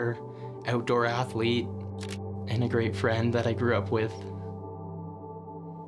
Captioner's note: camera shuttering